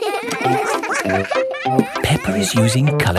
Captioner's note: all giggling